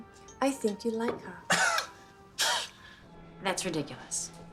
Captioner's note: scoffs